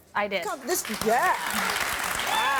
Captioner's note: applause